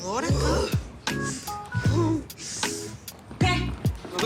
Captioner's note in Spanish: Gruñidos